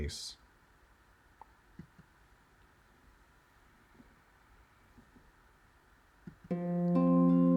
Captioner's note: silence